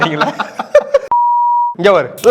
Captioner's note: laughs